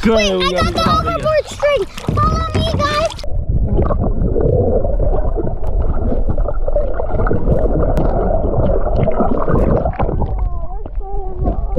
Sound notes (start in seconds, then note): 3.5 underwater distortion